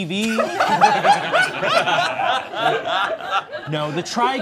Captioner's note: all laughing